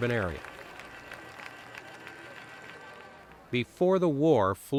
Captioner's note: people clap